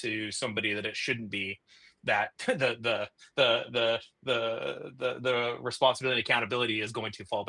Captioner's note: chuckles